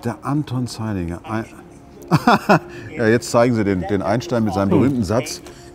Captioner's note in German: lacht